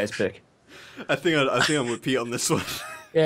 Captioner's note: laughter